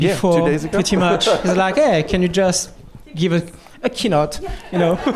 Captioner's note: laughter